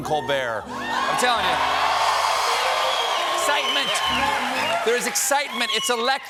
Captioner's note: cheers and applause